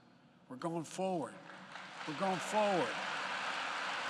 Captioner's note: applause